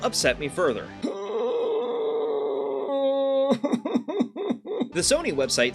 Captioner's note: whines